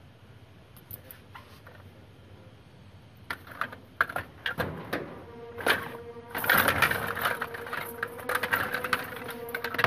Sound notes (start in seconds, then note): 3.3 brushes rattle; 4.6 suspenseful music playing